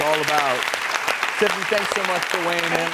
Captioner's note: clapping